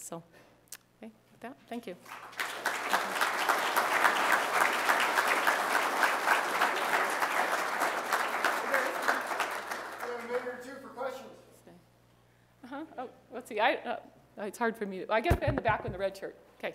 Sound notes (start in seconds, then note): 2.6 applause